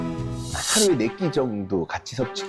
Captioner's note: many conditions sound effect